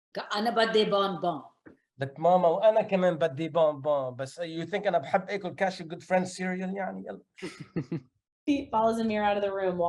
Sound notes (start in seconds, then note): 0.2 speaks in foreign language; 2.3 speaking in foreign language